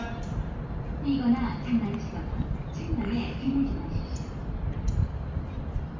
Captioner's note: the escalator is speaking